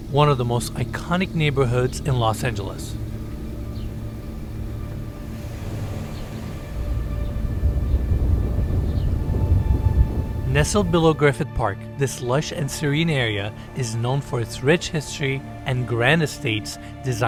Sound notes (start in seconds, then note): 4.5 birds chirping; 4.5 gentle music